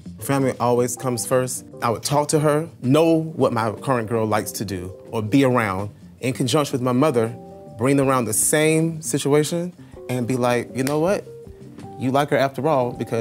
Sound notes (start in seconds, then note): none